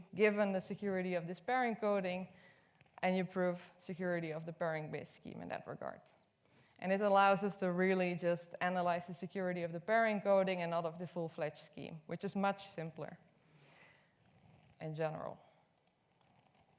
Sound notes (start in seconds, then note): none